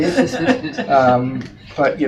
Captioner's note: laughing